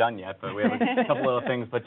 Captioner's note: laughs